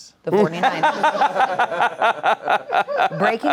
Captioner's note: laughs